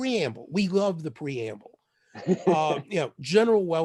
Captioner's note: laughter